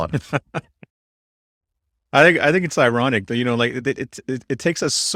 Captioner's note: laughs